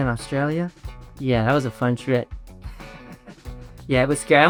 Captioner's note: laughs